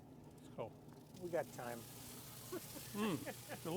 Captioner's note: man laughing